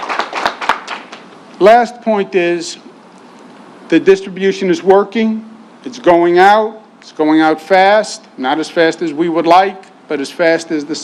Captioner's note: applause